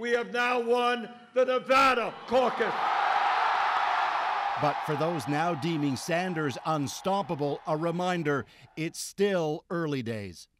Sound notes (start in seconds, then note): 3.5 cheers and Applause